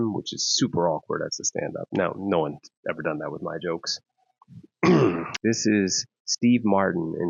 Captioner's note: clears Throat